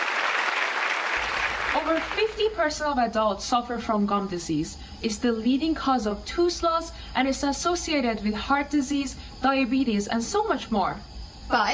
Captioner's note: applause